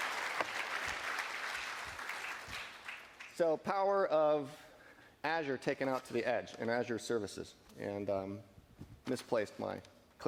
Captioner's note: applause